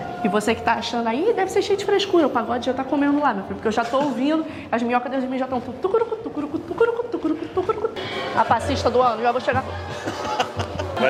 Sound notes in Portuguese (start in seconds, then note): 7.2 cantarolando; 9.9 risos